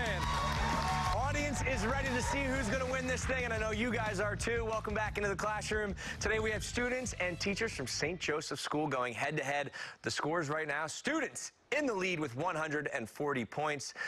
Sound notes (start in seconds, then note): 4.4 cheers and applause